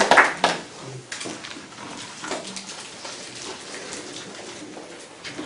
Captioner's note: applause